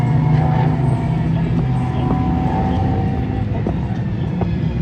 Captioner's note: Traffic